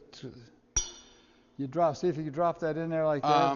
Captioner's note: glass clinks